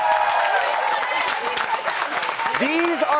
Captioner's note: applause